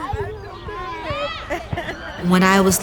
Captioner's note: laughing